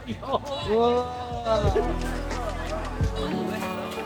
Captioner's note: laugh